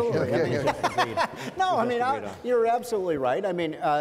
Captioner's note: laughs